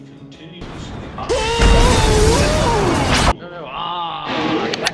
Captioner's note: electric Sounds and yelling